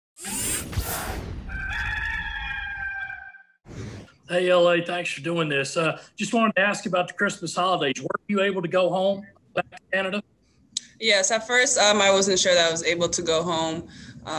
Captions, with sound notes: (gears whirring) (rooster crows) - Hey, LA, thanks for doing this. Just wanted to ask you about the Christmas holidays. Were you able to go home back to Canada? - Yes, at first, I wasn't sure that I was able to go home,